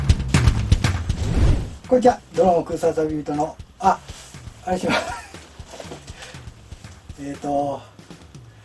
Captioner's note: laughter